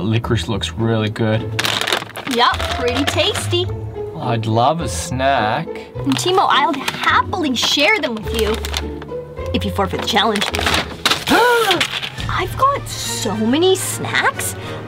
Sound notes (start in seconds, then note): 11.2 gasps